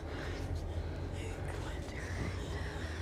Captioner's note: heavy breathing